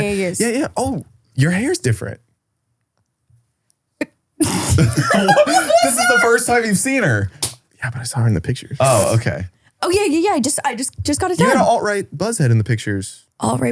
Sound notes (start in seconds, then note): 4.4 laughing